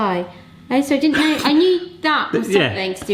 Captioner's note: wheezing